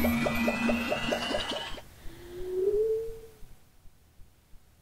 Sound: electric whooshing

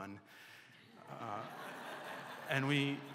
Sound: laughter

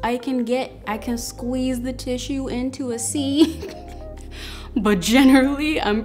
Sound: laughs

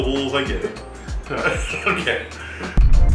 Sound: laughing

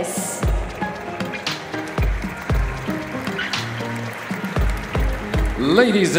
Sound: applause

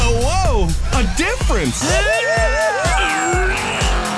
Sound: straining

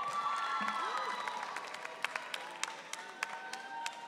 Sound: audience cheering

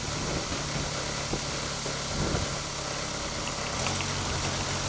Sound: telehandler engine droning

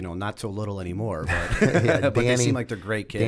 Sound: laughter

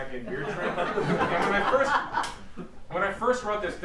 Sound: laughter

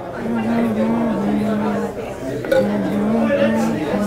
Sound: humming

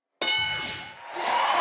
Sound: clunking; audience cheering

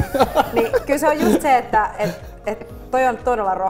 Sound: chuckles

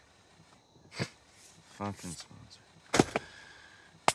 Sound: derisive snort, mutters under breath

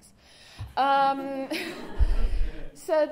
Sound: laughter

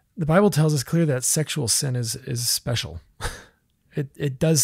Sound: laughs

